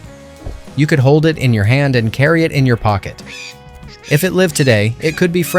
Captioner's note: squirrel squeaks